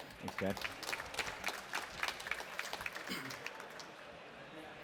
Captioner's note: applause